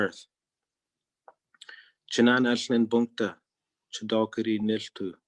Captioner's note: speaking in Native Language